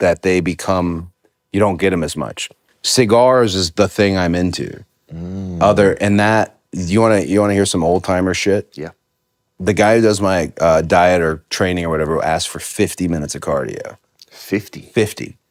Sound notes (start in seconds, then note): none